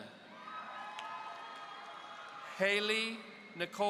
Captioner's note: audience cheering